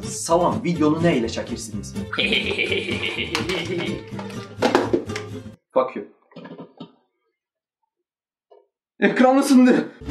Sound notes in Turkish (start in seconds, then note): 4.6 düşme sesi